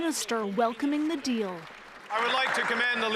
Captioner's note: applause